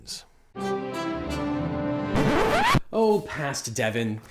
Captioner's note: record scratching; regal music